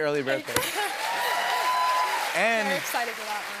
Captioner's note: cheers and applause